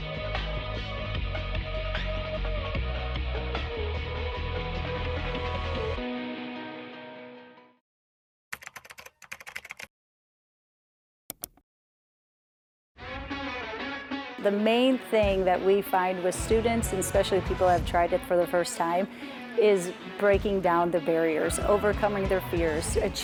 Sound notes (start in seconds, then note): 0.0 energetic music; 8.5 keyboard clicking; 11.3 mouse clicking; 13.1 energetic music